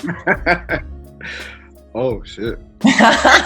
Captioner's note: laughs